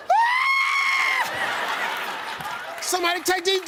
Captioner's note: Steve screams